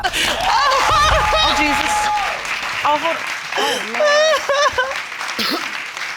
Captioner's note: wails